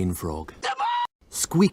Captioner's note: Lemongrab screaming